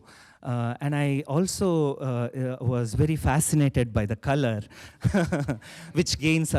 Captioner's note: chuckles